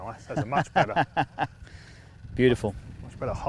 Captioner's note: laughs